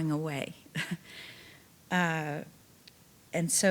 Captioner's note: chuckling